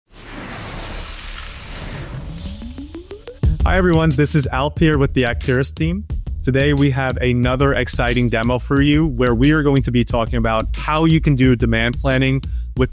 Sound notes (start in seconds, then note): 0.0 logo whooshing; 2.5 bright music